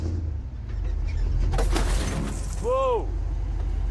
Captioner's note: clatter